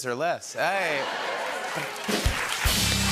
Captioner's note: laughter; rimshot